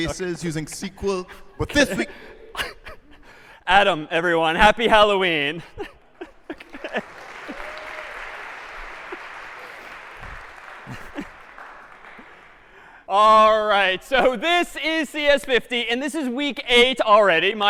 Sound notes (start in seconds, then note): 5.3 laughs; 6.4 applause